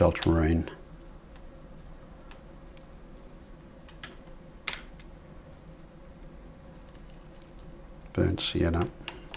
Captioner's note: silence